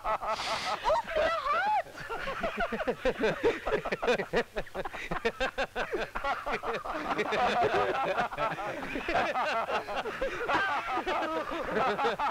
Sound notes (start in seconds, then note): 1.6 Laughs